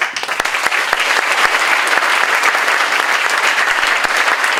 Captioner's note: crowd applauding